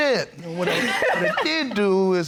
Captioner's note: laughing